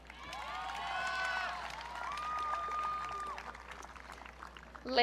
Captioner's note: audience cheering